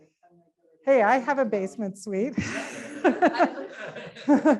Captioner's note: laughs